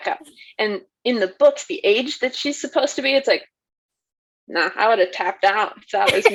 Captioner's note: laughs